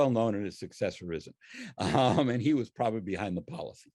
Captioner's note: laughs